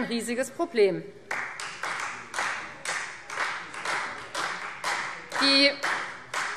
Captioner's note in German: Beifall Freie Demokraten